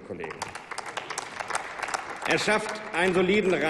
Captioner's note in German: Applaus